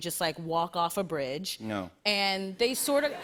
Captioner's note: laughter